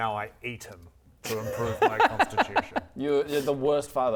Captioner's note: concerning laugh